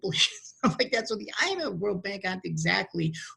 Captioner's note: laughs